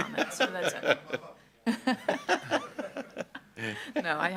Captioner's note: all laughing